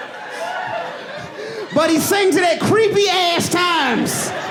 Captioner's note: audience laughing